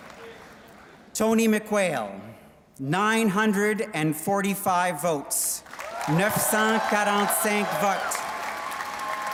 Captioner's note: applause